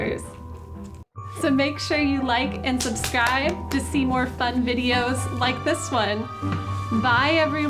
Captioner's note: clapping